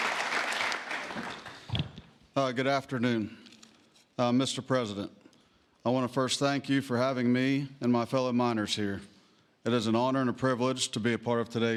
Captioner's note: applause